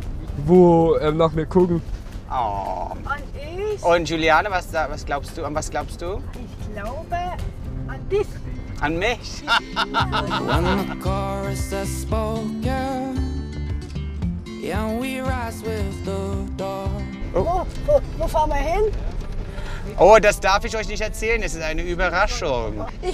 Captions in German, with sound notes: wo nach mir gucken. - Ohhh! Und Giuliana, an was glaubst du? Ich glaube ... an dich! - An mich? (Lachen) (Gelassene Musik) Oh, wo fahren wir hin? Das darf ich euch nicht erzählen, das ist eine Überraschung.